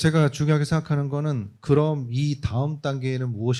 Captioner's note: speaking korean